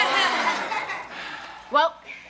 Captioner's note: audience laughs